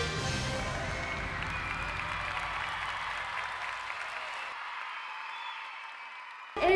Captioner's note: audience cheering; audience applauding